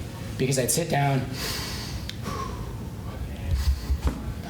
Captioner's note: breathes in and out